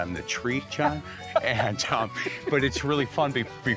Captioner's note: laughing